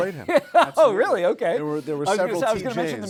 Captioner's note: laughs